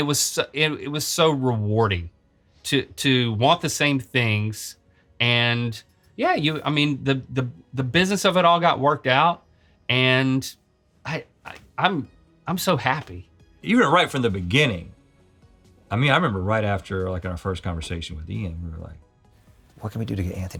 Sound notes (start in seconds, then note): none